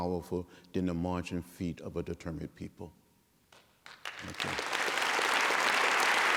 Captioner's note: applause